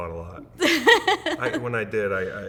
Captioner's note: laughing